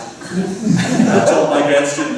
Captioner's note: laughter